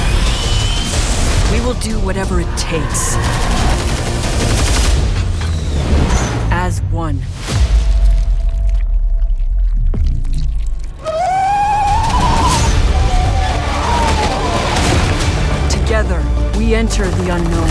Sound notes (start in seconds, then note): 7.4 squelching noise; 10.9 monster squealing